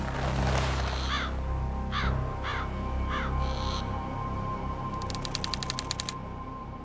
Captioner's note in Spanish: Canto de los pájaros